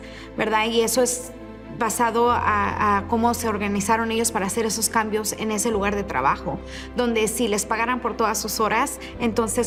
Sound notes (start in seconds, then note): 1.7 continues speaking in Spanish